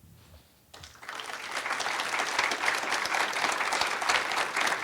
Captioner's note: audience applauds